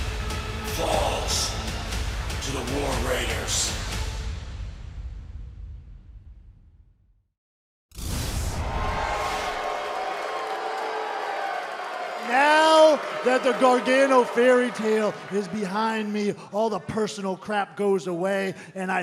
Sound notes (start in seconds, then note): 10.7 cheers and boos